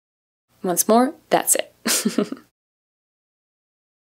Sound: chuckles

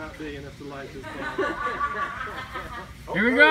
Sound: laughter among everyone

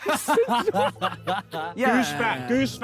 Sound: laughing

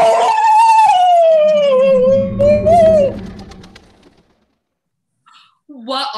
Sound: magical wind & feathers flapping

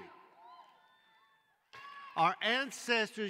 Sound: cheering

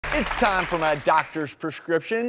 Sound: clapping

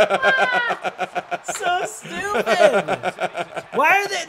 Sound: laugh

